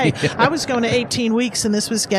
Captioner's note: laughs